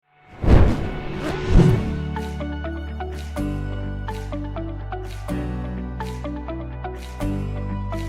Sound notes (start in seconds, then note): 0.3 whoosh; 0.4 soft energetic music